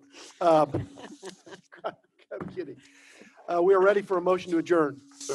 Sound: laughter

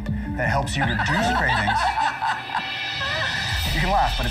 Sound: laughing

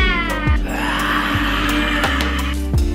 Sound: roaring

